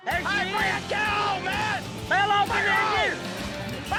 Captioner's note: shouts